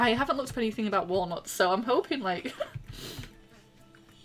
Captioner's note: laughs